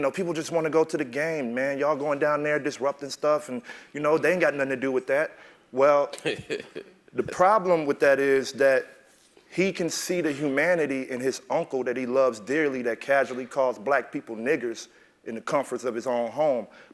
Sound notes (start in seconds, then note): 6.1 laugh